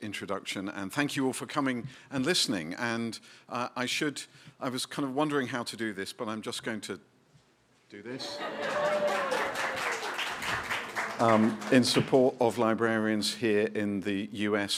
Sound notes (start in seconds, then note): 8.1 laughter, applause